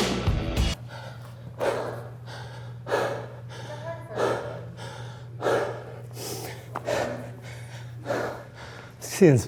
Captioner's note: labored breathing